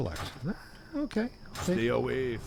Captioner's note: laughs